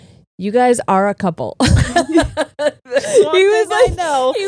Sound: both laughing

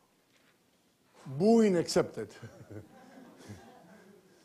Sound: laughs

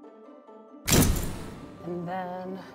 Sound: door slams

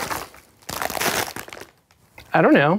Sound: bag crunching

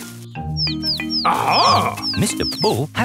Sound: chirping

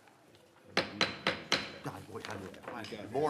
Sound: gavel bang, bang, bang, bang

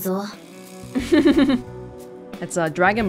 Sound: chuckles

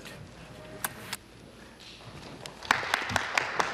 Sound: some Applause

